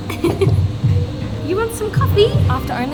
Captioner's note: giggling